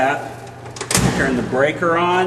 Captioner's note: metal clang